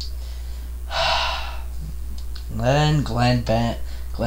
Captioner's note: sigh